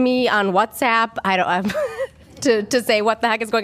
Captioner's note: laughter